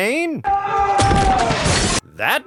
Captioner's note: a bunch of yelling